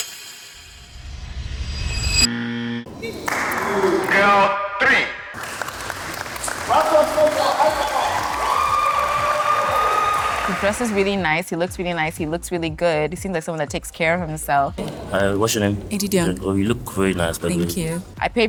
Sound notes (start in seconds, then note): 2.3 buzzer sounds; 3.2 applause; 8.3 cheering